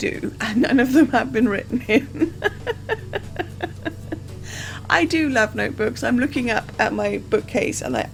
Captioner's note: laughs